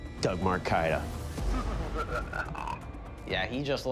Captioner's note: maniacal laughter